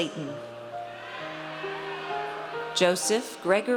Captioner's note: audience cheers